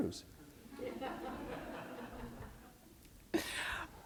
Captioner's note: laughter